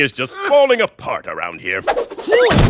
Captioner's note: grunts